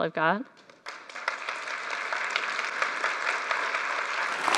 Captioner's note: applause